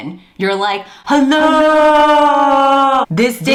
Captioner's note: echoing